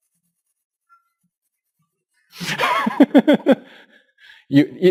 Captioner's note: pause